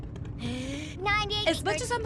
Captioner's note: inhales deeply